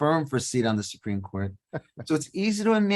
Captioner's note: laughing